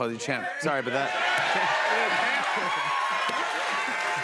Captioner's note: cheers and applause